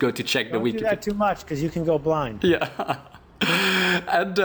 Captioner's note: laughing